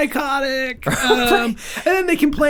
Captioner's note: Rob laughs